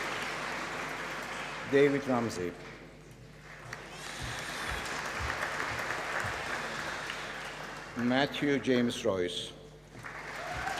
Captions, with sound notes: David Ramsey. (APPLAUSE) Matthew James Royce. (APPLAUSE)